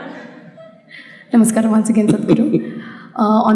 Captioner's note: laughter; Sadhguru laughs